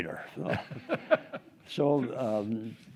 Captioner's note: group laughing